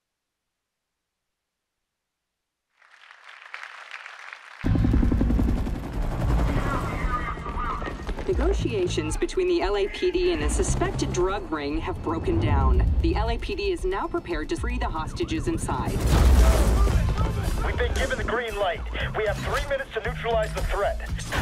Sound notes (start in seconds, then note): 0.3 audience clapping; 4.6 music, helicopter noises